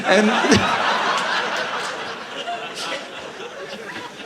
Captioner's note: audience laughing